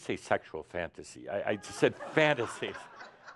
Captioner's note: laughter